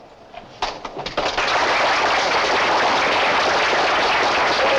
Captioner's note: applause